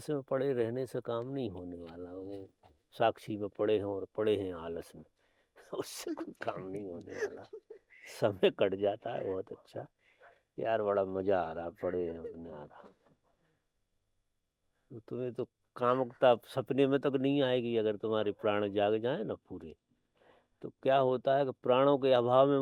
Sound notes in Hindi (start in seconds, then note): 6.0 हंसी